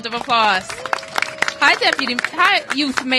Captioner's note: applause